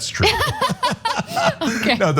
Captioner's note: laugh